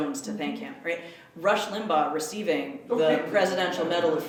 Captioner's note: laughter